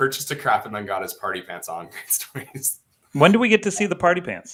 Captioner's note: laughs